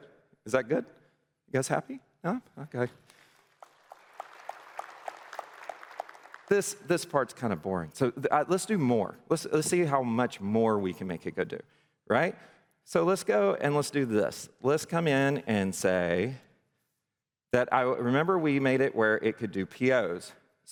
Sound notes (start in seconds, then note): 3.1 applause